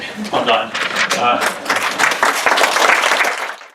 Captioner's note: applause